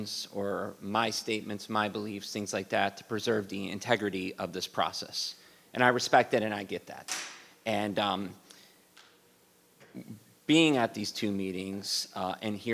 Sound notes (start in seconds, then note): none